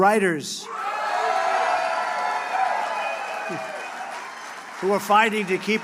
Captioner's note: applause